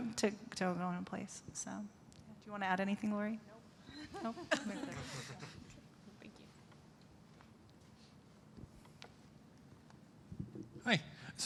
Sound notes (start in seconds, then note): 3.9 laughter